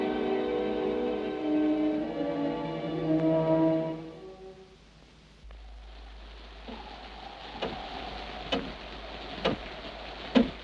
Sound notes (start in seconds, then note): 7.5 clock ticks